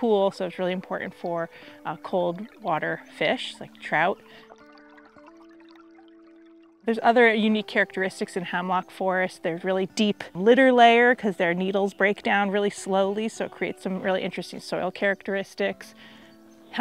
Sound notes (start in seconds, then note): 4.0 water trickling